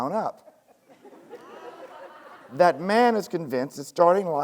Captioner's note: students laughing